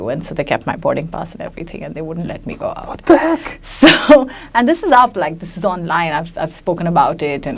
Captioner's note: laughs